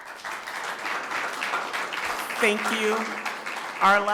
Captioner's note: people clapping